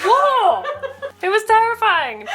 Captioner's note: laughs